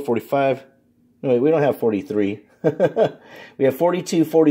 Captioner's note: laughs